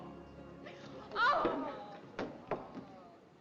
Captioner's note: groans